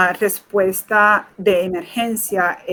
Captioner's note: speaking in Foreign Language